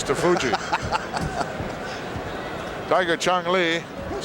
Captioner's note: Pat laughs